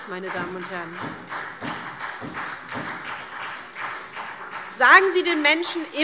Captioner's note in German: Beifall SPD und DIE LINKE